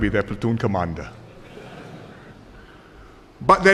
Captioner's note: laughter